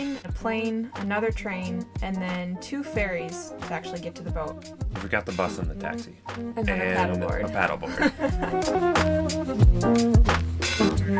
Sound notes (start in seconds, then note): 7.8 laughing